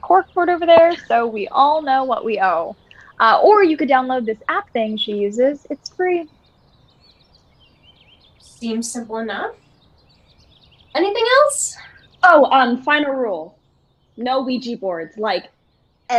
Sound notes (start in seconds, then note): none